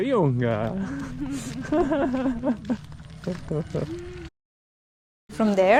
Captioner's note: laugh